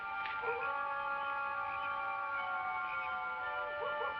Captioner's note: distant howls